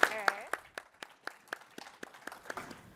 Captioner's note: applause